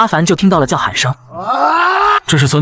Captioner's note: unexplained shouts